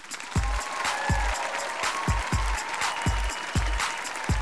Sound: claps and applauses

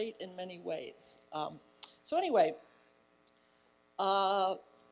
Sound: none

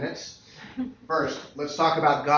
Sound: laughter

